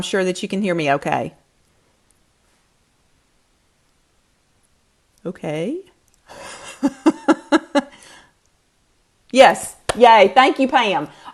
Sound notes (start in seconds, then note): 6.3 laughs